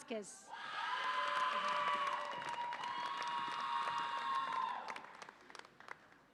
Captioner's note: audience applauds and cheers